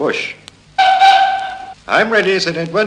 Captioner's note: train whistle